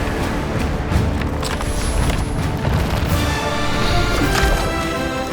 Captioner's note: dramatic music; paper rustling